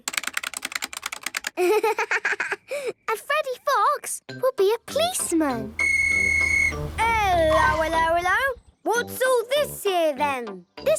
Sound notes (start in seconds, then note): 0.0 keyboard clicking; 5.8 whistle blowing